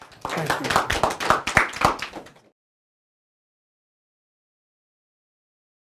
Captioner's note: attendees applauding